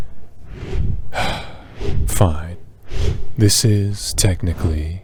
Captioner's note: sigh